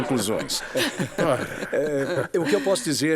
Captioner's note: laughter